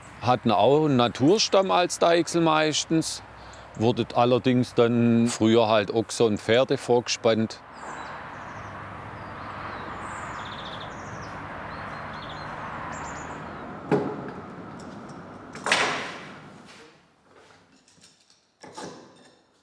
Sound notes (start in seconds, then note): 8.1 traffic noise, birdsong; 13.6 rumble